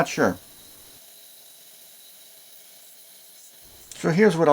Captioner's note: grinder sounds